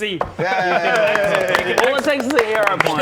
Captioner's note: omg finally applause